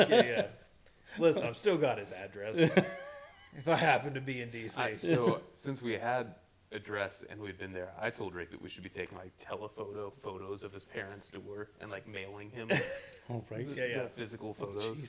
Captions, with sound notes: (laughing) Listen, I've still got his address. If I happen to be in DC. So, since we had address and we've been there, I told Rick that we should be taking like telephoto photos of his parents to work and like mailing him. Oh, right. Physical photos.